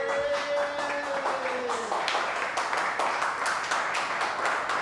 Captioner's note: cheering and applause